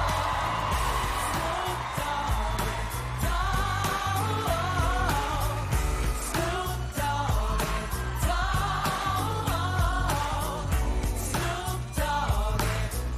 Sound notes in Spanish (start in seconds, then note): 0.0 aplausos